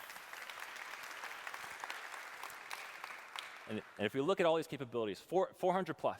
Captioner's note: applause